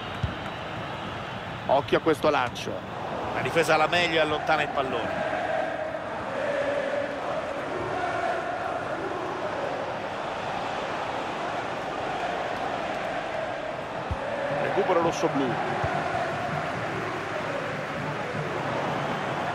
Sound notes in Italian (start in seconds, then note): 7.4 Applauso